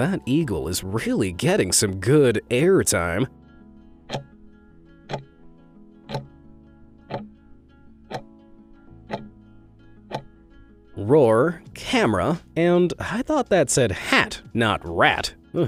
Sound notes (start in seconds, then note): 4.2 timer ticking